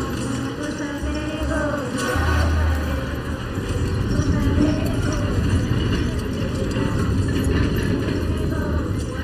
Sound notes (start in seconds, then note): 1.4 train clattering; 3.9 singing in foreign language